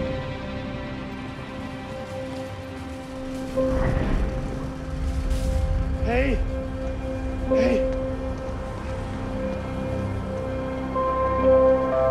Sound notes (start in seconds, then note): 1.6 basket rattling; 1.6 soft music; 9.5 soft music